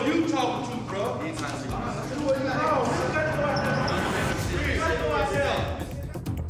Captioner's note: indistinct chatter